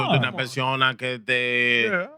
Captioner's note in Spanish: Hablando en idioma extranjero